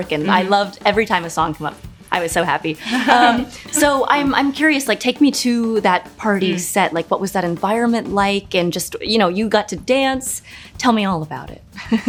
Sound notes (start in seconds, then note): 2.8 Nia and Tessa laugh